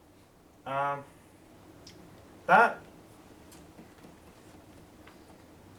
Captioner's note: non-english speech